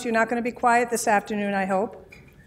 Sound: none

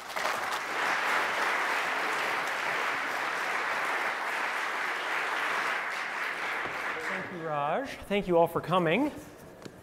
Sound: applause

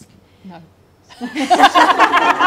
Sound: laughing

